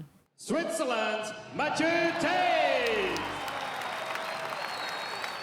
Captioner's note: cheering